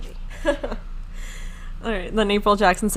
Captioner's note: laughing